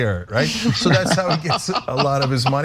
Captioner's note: laugh